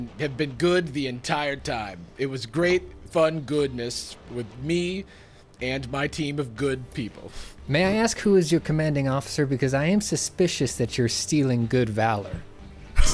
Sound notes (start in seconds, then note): 7.7 pat